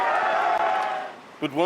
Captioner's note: cheering